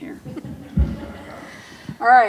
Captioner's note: laughter